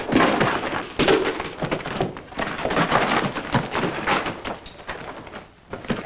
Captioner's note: footsteps